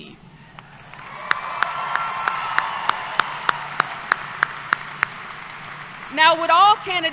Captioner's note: applause